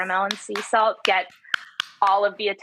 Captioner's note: claps loudly